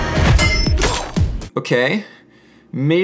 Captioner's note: nervously